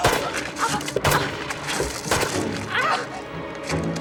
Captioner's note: gunshots